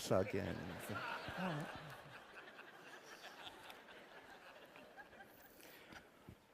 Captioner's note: laughter